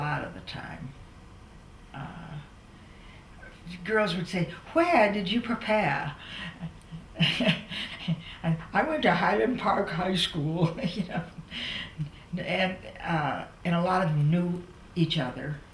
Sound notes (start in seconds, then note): 6.2 laughs